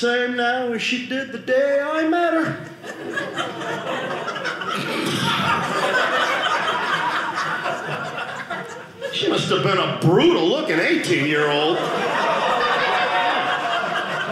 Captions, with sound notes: "now as she did the day I met her." (audience laughing) She must have been a brutal looking 18-year-old. (audience laughing)